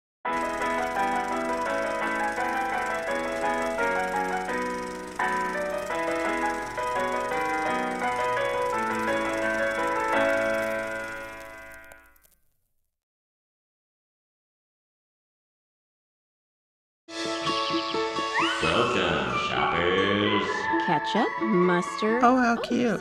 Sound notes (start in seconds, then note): 0.1 ragtime music; 12.1 silence; 17.2 serene acoustic music